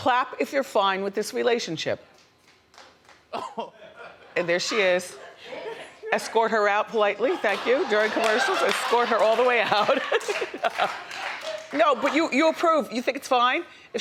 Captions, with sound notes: Clap if you're fine with this relationship. (faint hands clapping) And there she is. Escort her out politely, thank you. During commercials, escort her all the way out. (Wendy laughs) No, but you approve, you think it's fine?